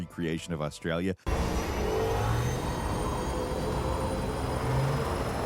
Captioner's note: motorcycle engine revving